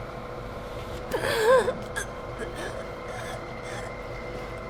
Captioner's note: gasping